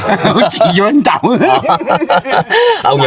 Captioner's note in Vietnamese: tiếng cười